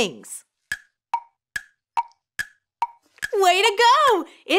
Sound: clock ticks

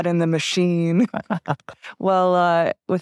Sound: laughs

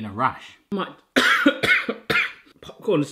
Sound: coughs

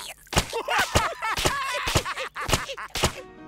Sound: laughing; both laughing

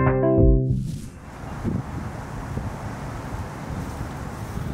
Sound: sounds of river and gusts of wind

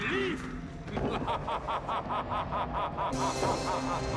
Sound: laughing

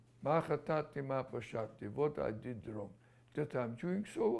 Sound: non-english

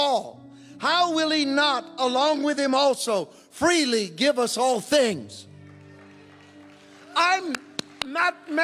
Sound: congregation cheering

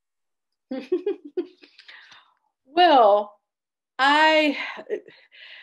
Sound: chuckling

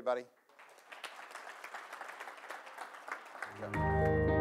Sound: applause

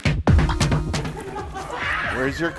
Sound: upbeat music; laughing

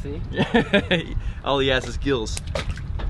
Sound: laughing

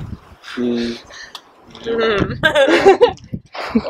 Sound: laughter

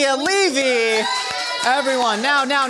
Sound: applause

